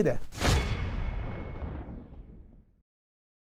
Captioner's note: sound effect